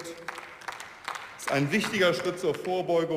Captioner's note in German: Beifall